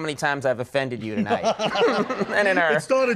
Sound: Colin laughing

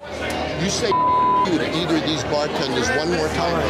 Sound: beep

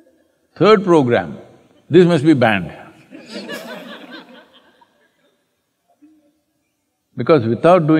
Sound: laughter

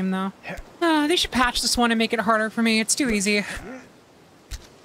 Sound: sigh

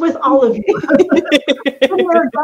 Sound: laughs

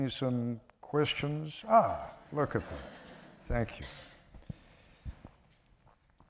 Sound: laughter

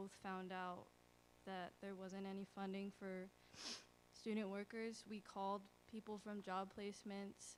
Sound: sniffle

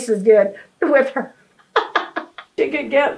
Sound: laughs

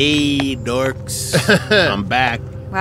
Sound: laughs

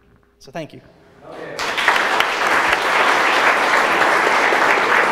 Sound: audience applauds

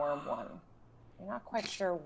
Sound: gasps

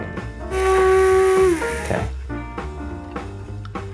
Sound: blender whirring

